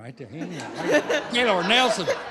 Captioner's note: laughter